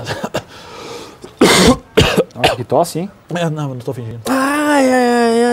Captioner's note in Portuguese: tosse